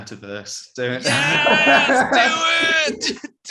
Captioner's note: laughing